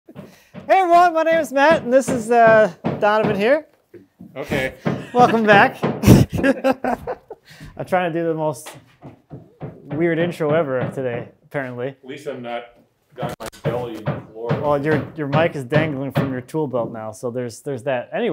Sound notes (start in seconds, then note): 3.2 hammers thumping; 6.0 laughing